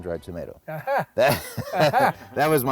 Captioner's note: laughs